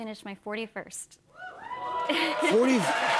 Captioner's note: cheers and applause